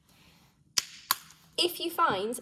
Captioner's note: the cap snaps shut